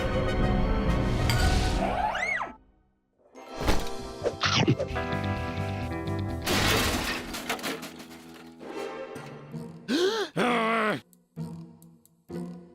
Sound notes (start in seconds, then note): 6.4 clattering noise; 9.9 gasp; 10.6 loud grumbling